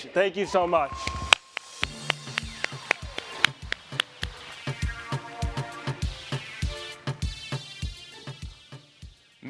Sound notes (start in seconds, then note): 1.5 applause; 4.9 electronic music